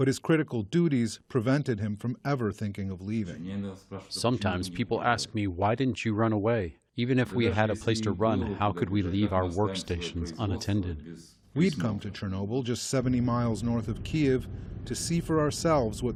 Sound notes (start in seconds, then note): 4.7 through translator